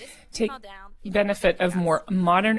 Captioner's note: speaking French